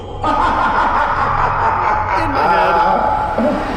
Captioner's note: ghost laughs